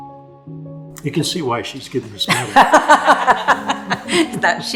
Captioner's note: laughs